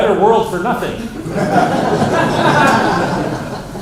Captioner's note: laughter